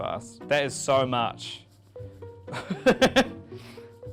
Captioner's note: laughs